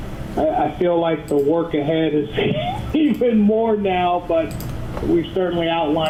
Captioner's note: laughs